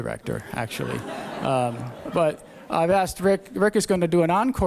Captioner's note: laughter